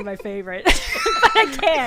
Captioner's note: laughter